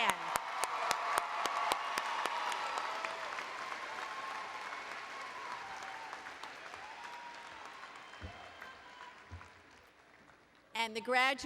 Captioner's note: applause